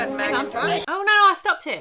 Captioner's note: crowd noises